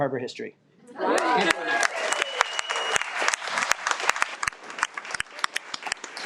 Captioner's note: audience cheers and applauds